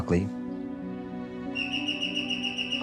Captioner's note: doorbell rings